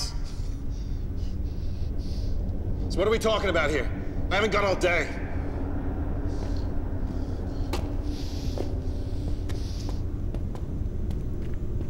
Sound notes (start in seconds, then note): none